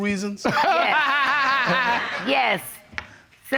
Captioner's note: laughs